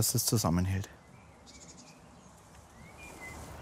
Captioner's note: birds chirping